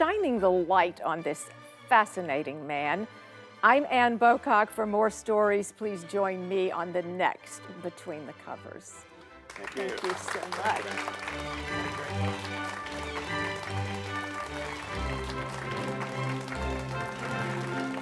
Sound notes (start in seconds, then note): 10.2 audience applauds; 11.2 enchanted orchestra music; 12.2 light bubbly music